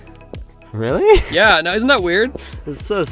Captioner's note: laughs